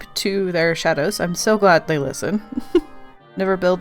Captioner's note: laughs